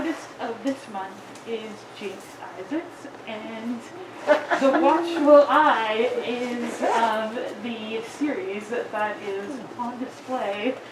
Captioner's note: audience member giggle